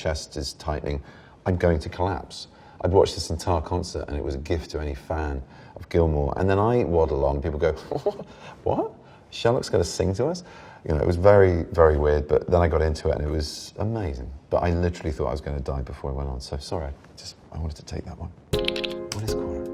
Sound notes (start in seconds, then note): 7.8 chuckles